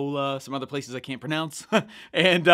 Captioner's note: laughing